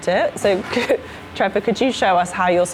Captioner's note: laughing